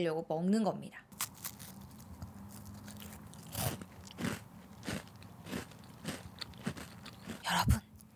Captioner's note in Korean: 바삭 바삭 와그작 와그작 쾅쾅 우장창